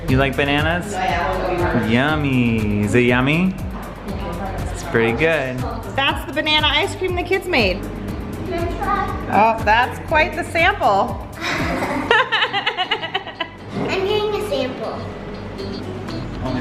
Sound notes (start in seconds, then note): 11.4 laughs